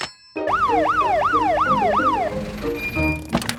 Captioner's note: siren sounding